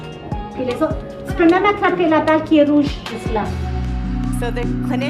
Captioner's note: clinician speaks foreign language